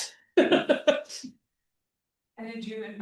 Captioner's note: laughs